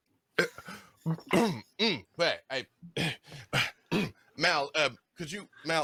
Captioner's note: clears the throat